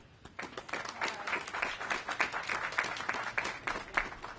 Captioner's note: applause